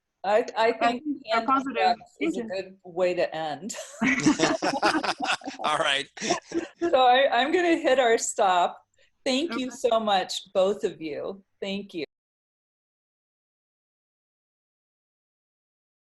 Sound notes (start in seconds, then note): 4.0 group laughter